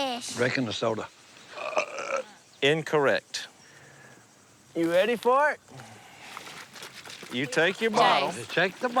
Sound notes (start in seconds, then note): 1.5 burps